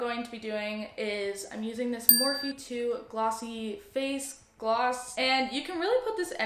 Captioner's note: ding